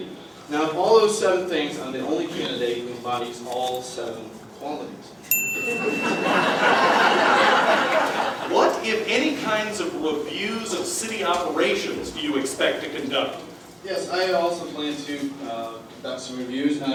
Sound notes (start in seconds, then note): 5.3 ding; 5.8 laughter